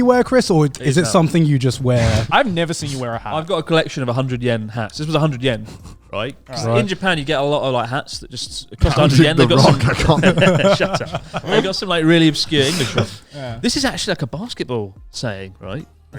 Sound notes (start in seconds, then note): 8.9 laughs loudly